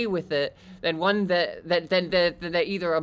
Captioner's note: stuttering